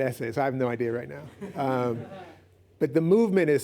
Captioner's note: laughs